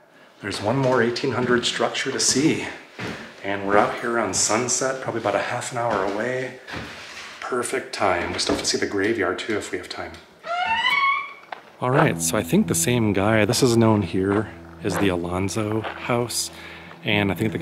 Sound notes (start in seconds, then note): 10.4 door creaks